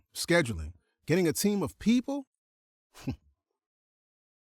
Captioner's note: chuckles